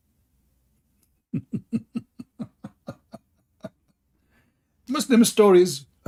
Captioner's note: Ketawa